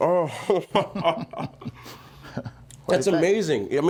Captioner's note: laughing